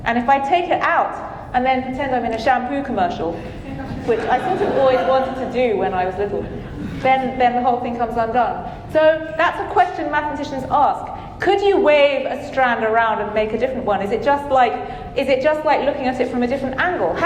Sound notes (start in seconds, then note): 3.7 audience chuckling